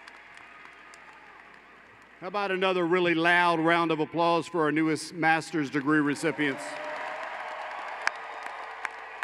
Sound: applause

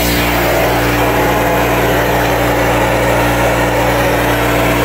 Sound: spraying

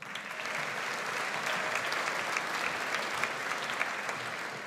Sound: audience applauds

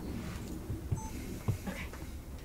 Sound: camera beeps

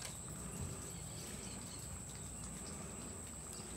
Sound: birds chirping

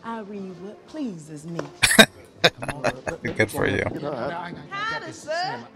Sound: laughing

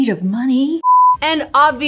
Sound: beep

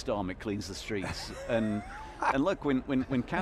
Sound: laughing

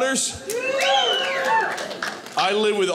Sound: crowd cheering

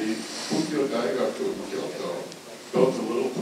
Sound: speaking foreign language

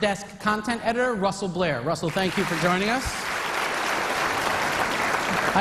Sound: applause

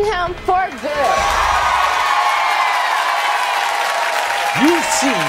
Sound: audience cheering

